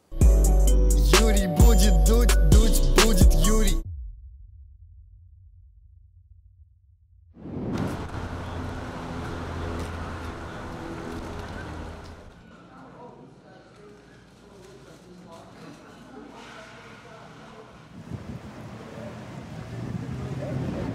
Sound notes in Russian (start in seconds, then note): 0.1 музыкальная заставка; 7.5 уличные звуки